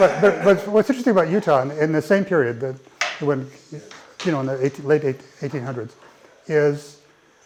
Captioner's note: laugh